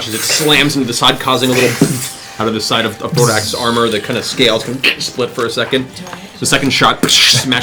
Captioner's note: explosion